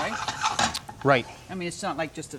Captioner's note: utensils clanking